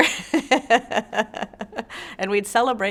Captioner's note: laughs